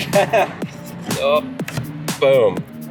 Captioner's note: chuckles